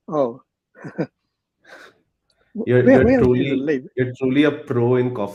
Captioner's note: laughs